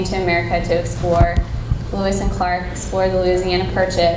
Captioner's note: none